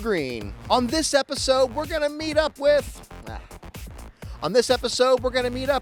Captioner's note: groans